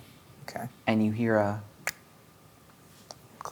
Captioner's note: clicks